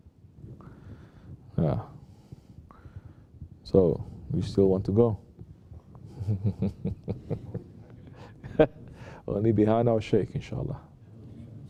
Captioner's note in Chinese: 导师笑着